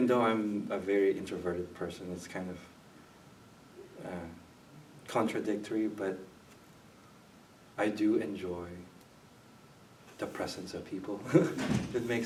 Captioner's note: chuckles